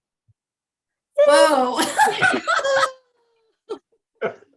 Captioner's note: laughing